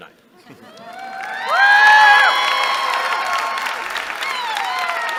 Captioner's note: cheering